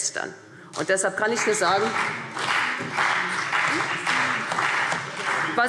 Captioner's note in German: Beifall